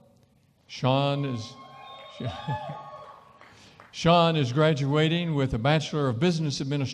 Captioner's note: cheering & applause